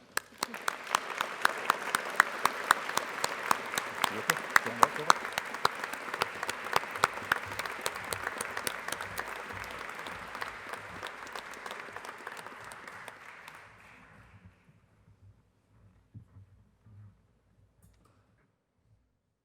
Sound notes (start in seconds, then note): 0.2 applause